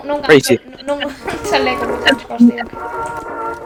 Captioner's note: laughs